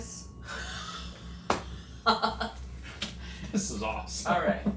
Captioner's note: investigators laughing